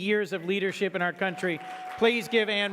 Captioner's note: audience clapping